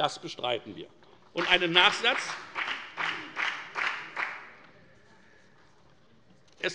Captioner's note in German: Beifall bei der FDP